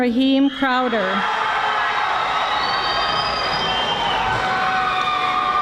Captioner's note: audience screaming